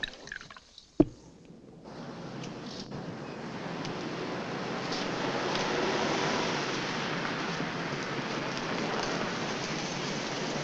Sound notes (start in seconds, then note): 0.0 drink pouring; 5.9 car rumbling